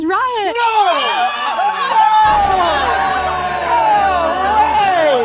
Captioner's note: all cheering